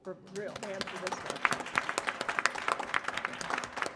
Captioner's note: applause